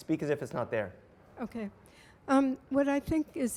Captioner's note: voiceover